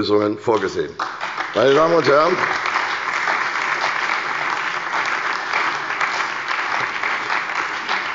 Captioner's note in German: Beifall bei der CDU und dem BÜNDNIS 90/DIE GRÜNEN